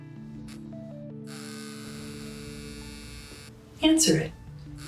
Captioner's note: phone vibrating